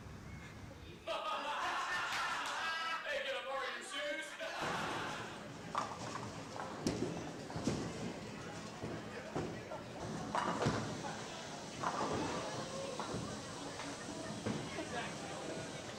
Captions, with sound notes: (comedian and audience laughing) - Hey, can I borrow your suit? (audience laughing)